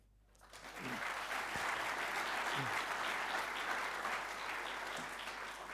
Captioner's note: audience applauding